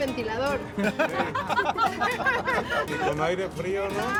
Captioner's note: laughter